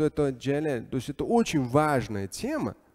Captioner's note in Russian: говорит на арабском